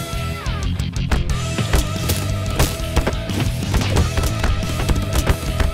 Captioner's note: Hitting sound